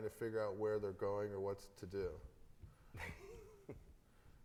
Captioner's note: laughs